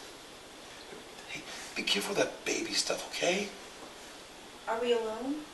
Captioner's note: sigh; whispering